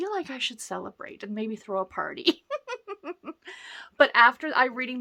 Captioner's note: laughs